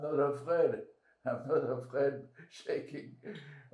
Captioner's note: laughing